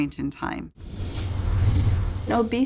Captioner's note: whooshing